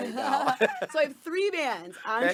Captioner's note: both laughing